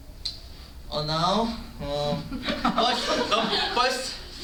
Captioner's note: laughter